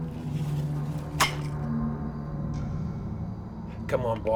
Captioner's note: mousetrap snapping